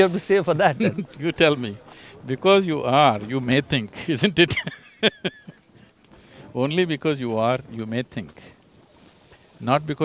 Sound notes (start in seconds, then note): 0.0 Sadhguru laughs; 0.4 laughs; 3.9 laughs